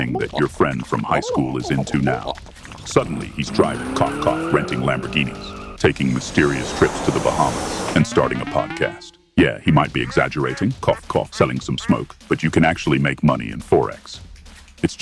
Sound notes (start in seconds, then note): 9.9 cough, cough